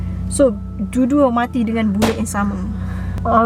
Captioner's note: gun pop's sound